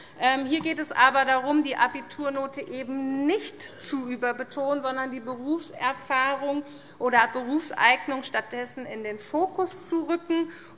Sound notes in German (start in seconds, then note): none